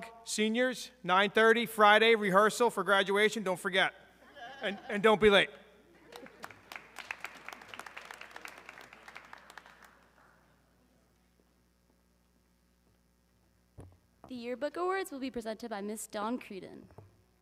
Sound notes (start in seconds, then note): 6.0 audience clapping